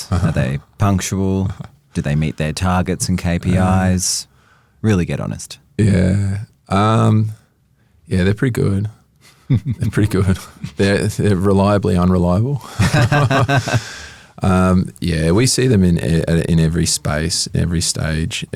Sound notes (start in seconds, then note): 9.3 chuckles; 12.7 both chuckle